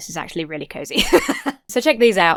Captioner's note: laughs